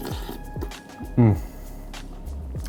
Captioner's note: slurp and hm